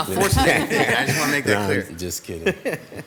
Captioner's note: all laughing